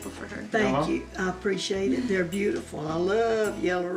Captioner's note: laughing